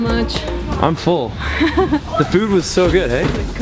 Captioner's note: giggles